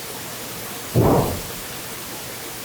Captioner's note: loud bang